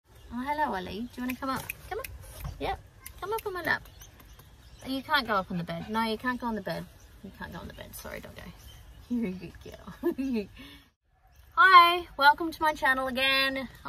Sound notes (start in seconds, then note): 1.2 clicks fingers; 9.8 giggles